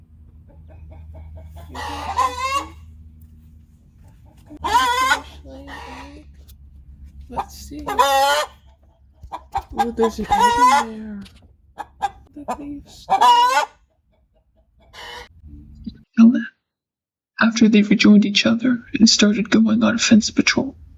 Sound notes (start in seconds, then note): 6.7 chickens vocalizing in the background; 10.5 chickens vocalizaing in the background; 14.8 vocalization Continues